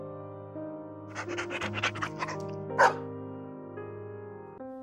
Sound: bark

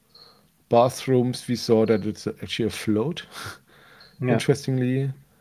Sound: chuckles

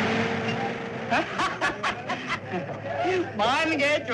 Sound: laughing

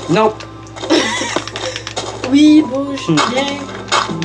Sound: laughs; music and game sound

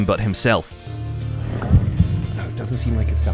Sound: heart beating

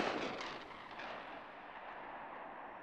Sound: gunshot

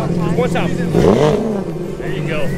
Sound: engine revs

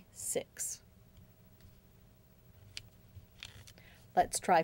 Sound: silence

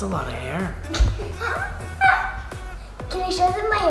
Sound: laughs

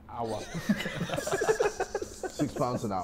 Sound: Sidemen laughing

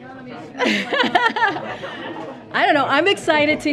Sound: laughter

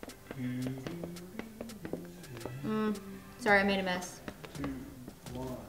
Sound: humming

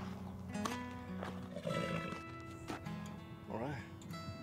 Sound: horse snorts

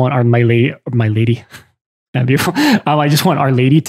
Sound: laughs

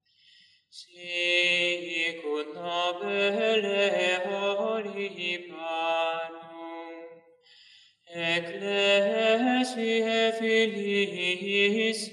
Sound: chant

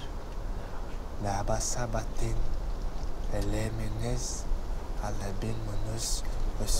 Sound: reciting foreign prayer

